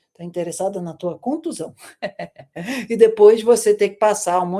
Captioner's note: laughter